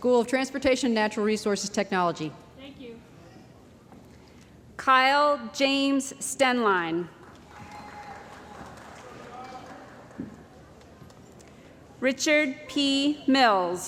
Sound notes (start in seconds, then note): 7.4 cheering & Applause